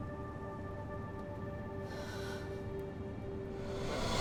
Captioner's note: sighs